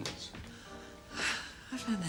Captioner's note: sighs